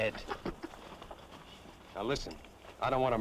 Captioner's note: kid chuckles